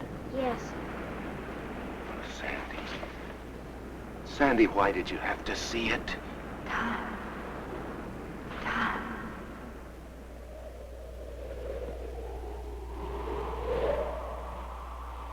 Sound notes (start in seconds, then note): 10.3 wind howling